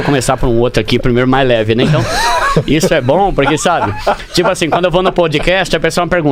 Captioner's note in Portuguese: risadas